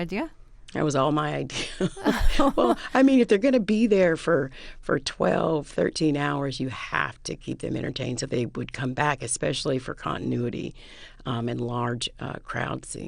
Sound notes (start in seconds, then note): 1.5 laughter